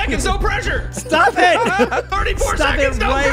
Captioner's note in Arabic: تضحك